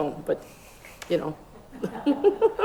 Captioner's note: laughs